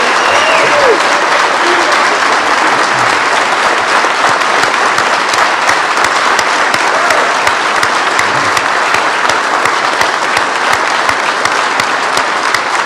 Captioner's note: applause